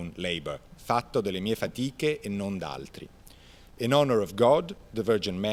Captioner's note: speaking in Italian